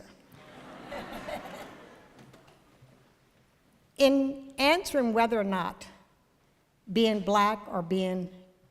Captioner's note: ~laughter~